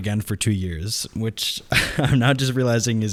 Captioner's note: laughs